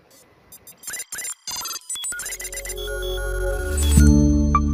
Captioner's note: electronic tones